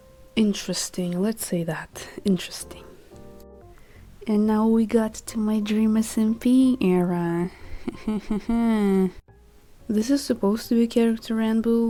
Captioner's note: laughing through pain